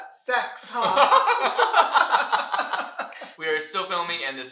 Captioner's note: laughter